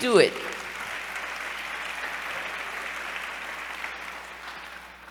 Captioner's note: applause